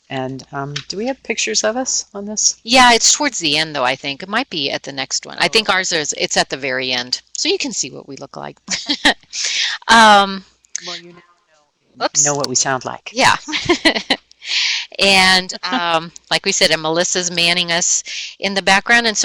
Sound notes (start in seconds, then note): 10.8 laughing; 13.4 laughing